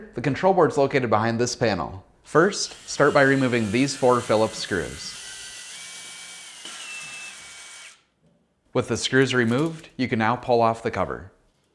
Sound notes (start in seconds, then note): 5.5 drill squealing